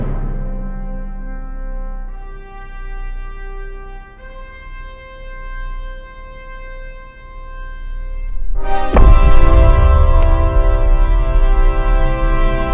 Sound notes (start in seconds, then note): 0.0 drum music; 0.2 dramatic orchestral music; 8.2 loud boom